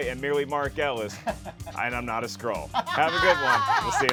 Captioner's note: laughs; laughs boisterously